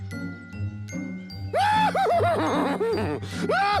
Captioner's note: neighing and laughing